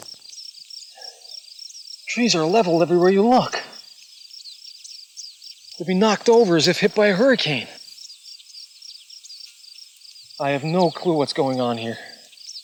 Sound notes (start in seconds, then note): 0.0 footsteps crunching; 7.7 birds chirping